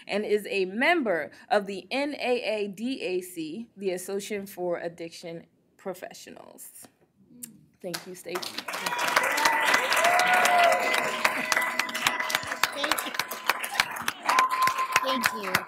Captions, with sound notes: and is a member of the NAADAC, the association for addiction professionals. Thank you, Stacey. [APPLAUSE, CHEERING] Thank you.